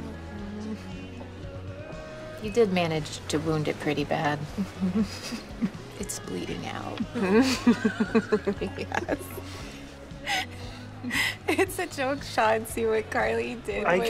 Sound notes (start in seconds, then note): 4.6 chuckles; 7.1 laughter